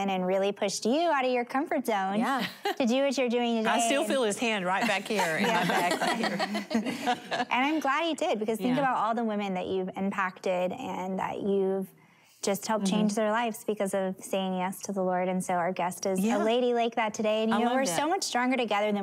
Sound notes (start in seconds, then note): 6.3 laughter